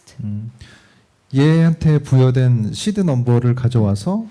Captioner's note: speaking korean